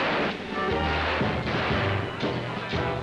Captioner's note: gunshot; gunshots; commotion & music